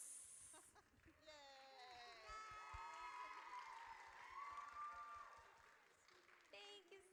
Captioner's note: audience cheers